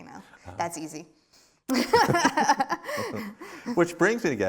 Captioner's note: laughs